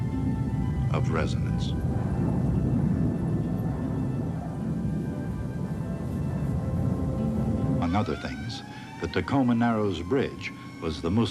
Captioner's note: low rumbling as wind blows